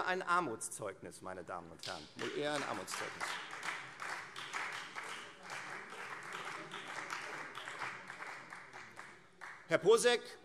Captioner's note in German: Beifall Freie Demokraten